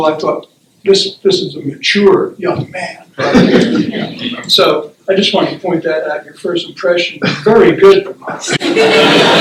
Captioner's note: laughter